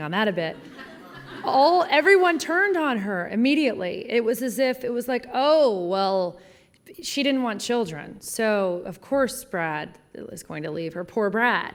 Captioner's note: laughter